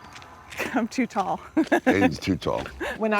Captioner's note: laughing